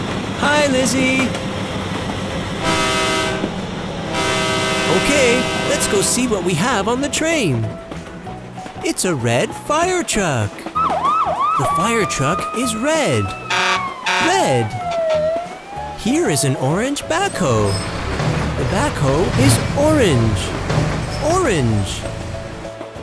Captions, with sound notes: Hi Lizzy! [Train horn sounds] OK, let's go see what we have on the train! It's a red fire truck! [Siren sounds] The fire truck is red. Red! Here is an orange backhoe The backhoe is orange. Orange!